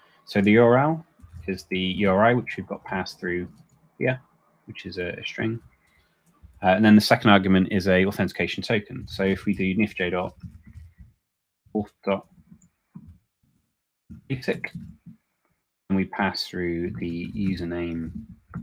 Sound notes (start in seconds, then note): none